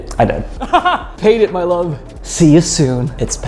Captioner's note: laughs